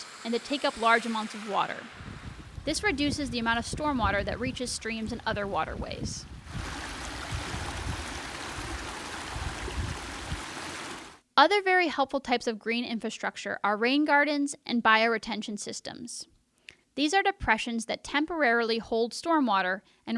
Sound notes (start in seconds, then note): 6.2 wind whooshing; 6.4 water splashing